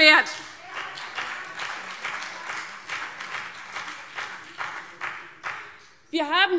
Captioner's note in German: Beifall CDU und BÜNDNIS 90/DIE GRÜNEN - Zurufe Freie Demokraten